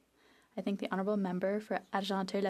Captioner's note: speaking French